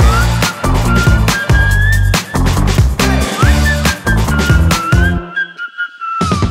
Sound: whistling

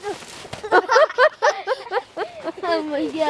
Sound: laughing

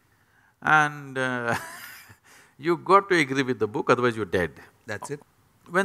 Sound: laughs

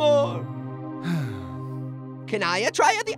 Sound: sighs

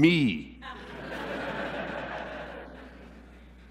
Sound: laughter

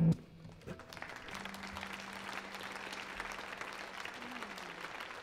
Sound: audience applauds

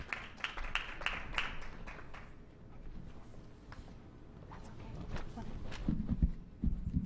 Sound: clapping

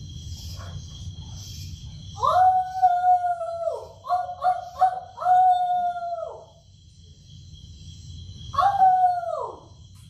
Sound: horse grazing. Coyote howls

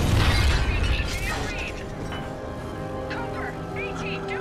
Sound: radio

